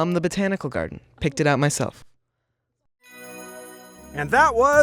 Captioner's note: chimes tinkling